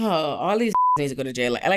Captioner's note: beep